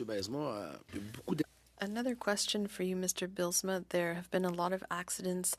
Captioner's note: speaking French